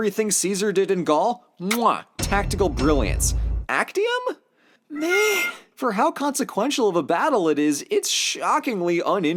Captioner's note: mwah